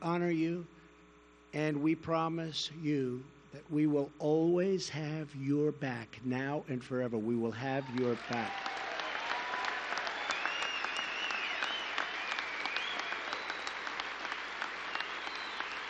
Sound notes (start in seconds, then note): 11.6 applause